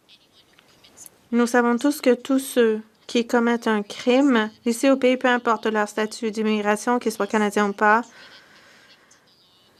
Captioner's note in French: voix de l'interprète